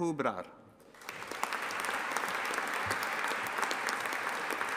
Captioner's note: audience applauding